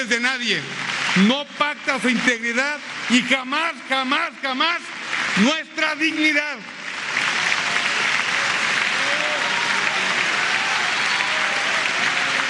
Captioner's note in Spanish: aplausos